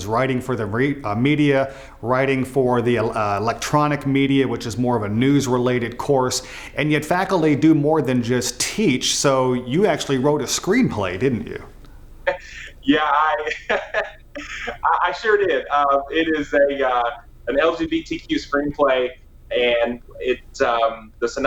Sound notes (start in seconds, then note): 12.2 laughing